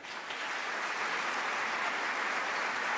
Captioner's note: applause